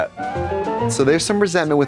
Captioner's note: bright chime